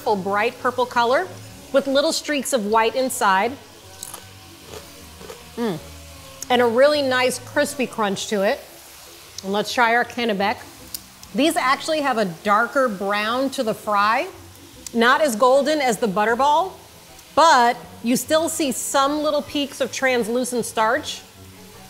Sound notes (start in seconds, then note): 3.9 chip crunching